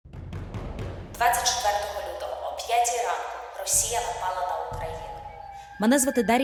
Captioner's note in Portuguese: ucraniano